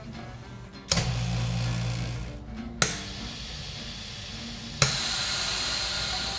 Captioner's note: vacuum sealer vibrating